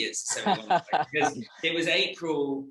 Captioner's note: laughs